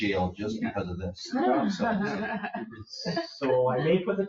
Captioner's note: people chuckle